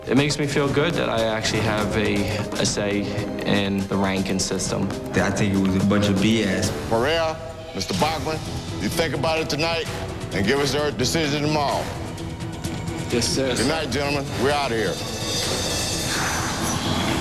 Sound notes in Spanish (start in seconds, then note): 16.0 sighs